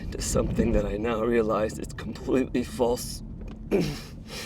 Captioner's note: grunts